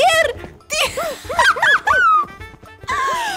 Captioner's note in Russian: пищание и вздохи; истерический смех